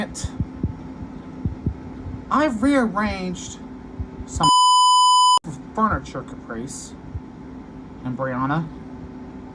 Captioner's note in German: Piep